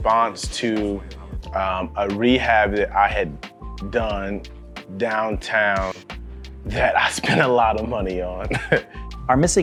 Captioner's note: laughs